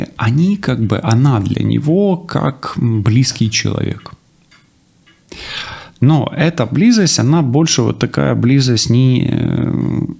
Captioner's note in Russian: вздыхает